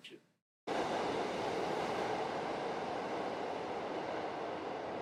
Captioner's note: train clattering